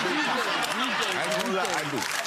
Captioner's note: audience laughing; clapping